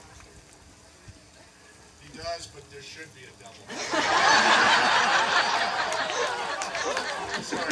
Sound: crowd laughs

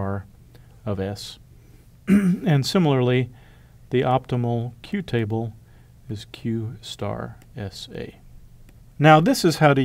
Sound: cough

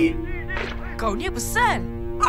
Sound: Mechanizer beeps

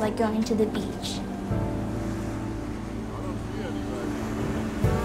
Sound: waves crashing

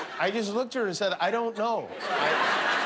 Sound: laughter

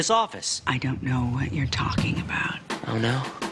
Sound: whispers

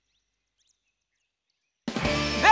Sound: none

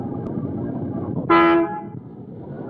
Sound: horn blares

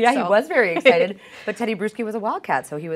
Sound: laughs

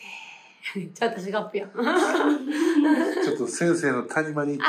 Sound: laughs

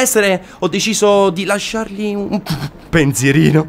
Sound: laughing

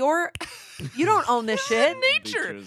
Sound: laughs

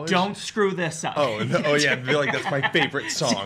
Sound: laughs

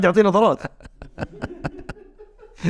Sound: laughs

